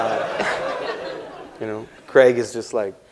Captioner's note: laughter